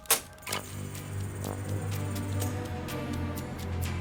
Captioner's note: door creaks